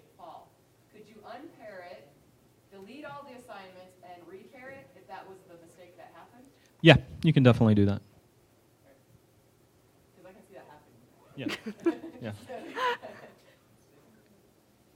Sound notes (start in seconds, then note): 11.4 chuckling